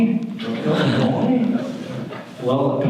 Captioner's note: audience laughter